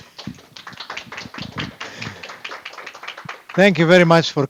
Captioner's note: audience applause